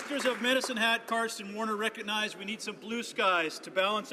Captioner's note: some Applause